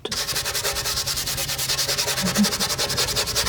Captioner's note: scratching